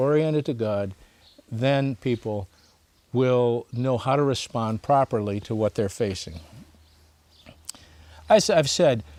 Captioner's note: smacks lips